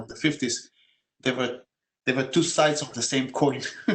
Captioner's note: laugh